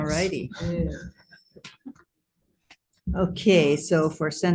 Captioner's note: laughs